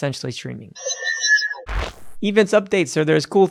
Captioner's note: electronic beeping